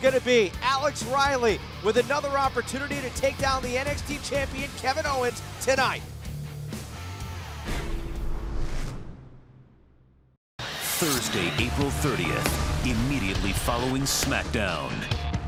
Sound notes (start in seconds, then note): none